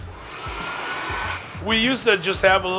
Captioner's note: blower whirring